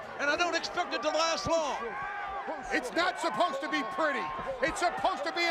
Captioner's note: applause